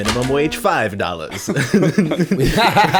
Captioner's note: laughter